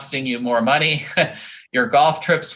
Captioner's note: chuckles